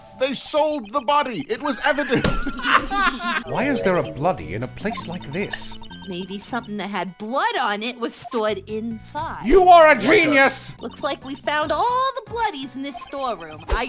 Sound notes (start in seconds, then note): 1.6 laughter